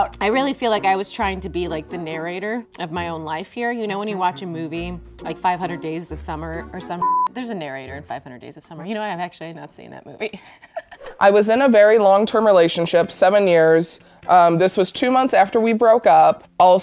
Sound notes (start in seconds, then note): 10.4 laughing